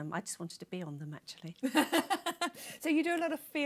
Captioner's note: laughter